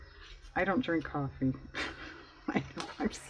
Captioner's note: laughs